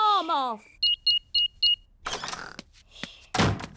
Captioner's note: beeping